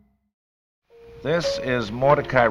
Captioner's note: silence